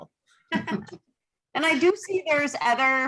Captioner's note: both laugh